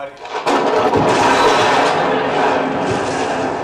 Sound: thunder; thunder and hymns

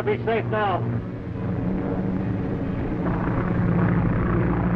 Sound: engines droning

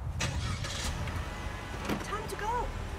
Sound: car engine starts

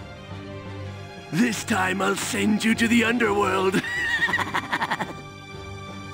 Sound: laughs

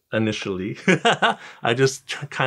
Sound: laughing

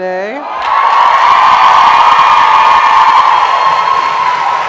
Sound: audience cheers

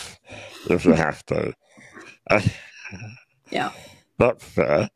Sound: all laughing

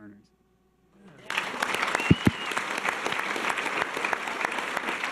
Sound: audience cheers and applause

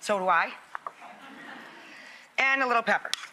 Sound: laughter

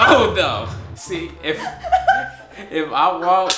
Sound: laughs

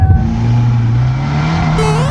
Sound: engine revving; techno note sounding

